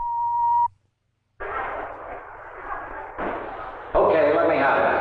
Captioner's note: missile beeping; machinery whirring; group chattering